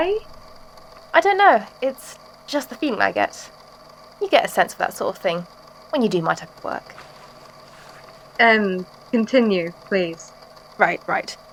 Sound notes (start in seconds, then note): 6.7 uncomfortable shuffling